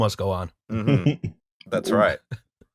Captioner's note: laughter